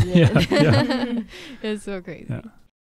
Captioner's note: laughing; speaking in foreign language